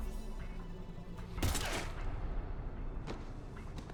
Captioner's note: bang